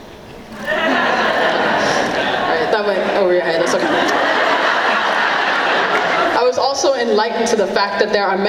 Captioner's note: laughing